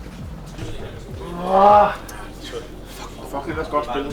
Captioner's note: roaring with frustration